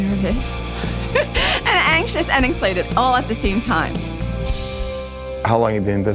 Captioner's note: laughing